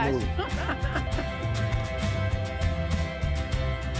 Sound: laughing

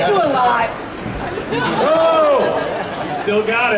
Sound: audience cheering

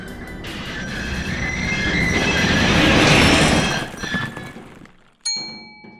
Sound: elevator Screeching

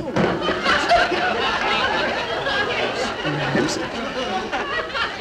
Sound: audience laughing

